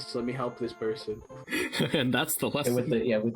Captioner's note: chuckling